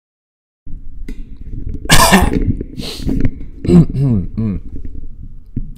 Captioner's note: coughs